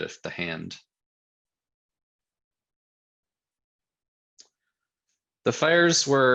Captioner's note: silence